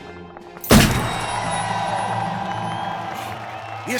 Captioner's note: rapturous applause, cheerful ringing